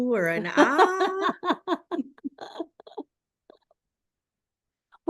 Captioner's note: laughing